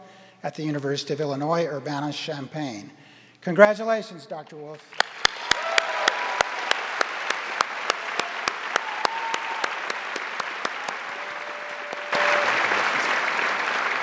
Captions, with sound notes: at the University of Illinois Urbana Champaign. Congratulations Dr. Wolf. (crowd applauding) (crowd cheering)